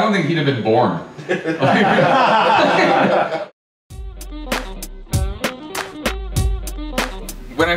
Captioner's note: laughter